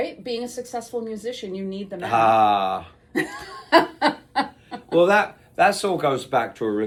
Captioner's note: laughs